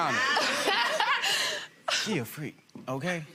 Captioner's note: laughs